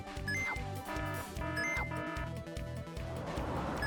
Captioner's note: alarm rings